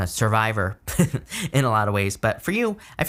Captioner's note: chuckles